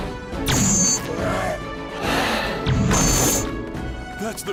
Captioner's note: Toth-Ra growling